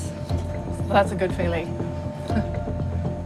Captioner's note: chuckles